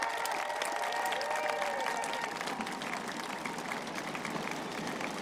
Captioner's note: applause